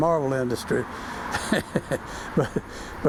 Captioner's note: chuckles